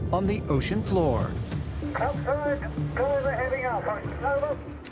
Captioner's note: speaking over radio